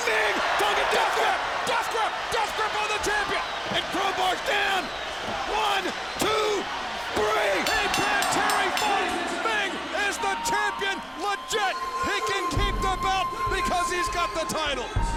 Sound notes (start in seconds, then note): 7.2 bell ringing